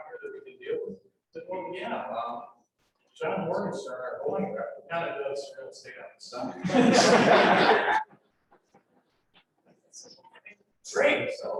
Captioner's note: laughter